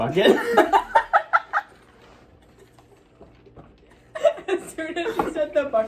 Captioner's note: both laugh